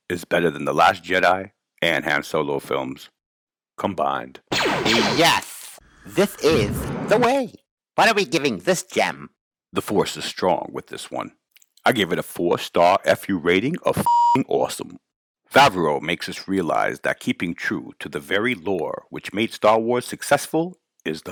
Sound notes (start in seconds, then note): 4.5 lasers firing; 14.0 beep